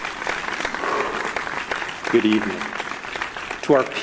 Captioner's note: applause